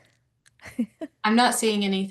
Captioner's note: chuckles